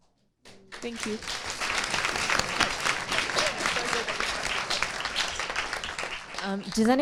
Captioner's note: audience applauding